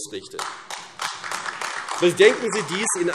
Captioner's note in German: Beifall AfD